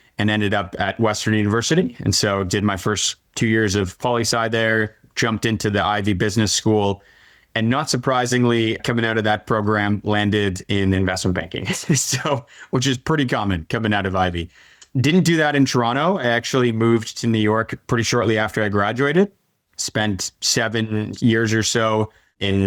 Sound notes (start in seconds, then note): 11.6 laughing